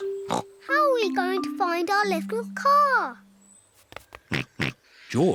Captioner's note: snorts